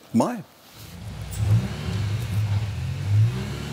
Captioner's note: soft engine noises